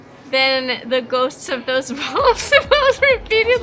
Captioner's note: laughing